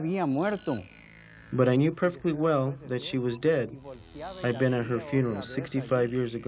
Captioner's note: speaking foreign language